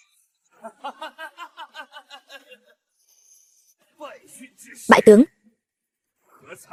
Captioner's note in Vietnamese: Tiếng cười